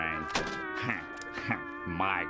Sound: laughing

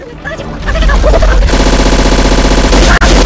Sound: impact

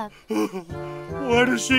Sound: sobbing

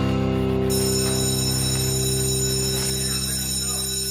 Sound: bell rings

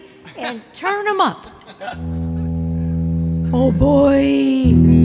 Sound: laughing

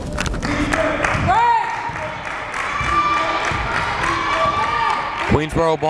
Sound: crowd chanting defense

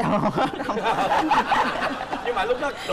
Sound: laughing

